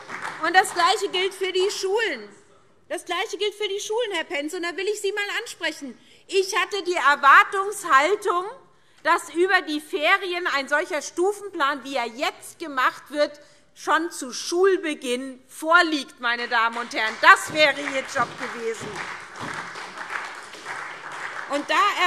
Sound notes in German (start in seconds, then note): 16.4 Beifall SPD